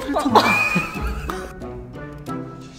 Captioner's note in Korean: 웃음